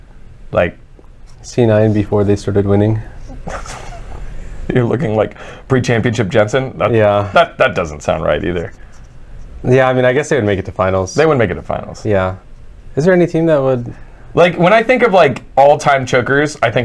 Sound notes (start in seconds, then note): 5.3 wheezing